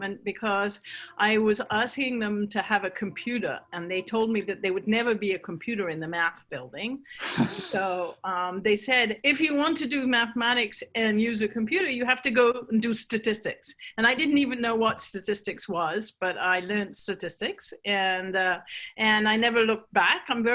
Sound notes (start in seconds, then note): 7.2 chuckles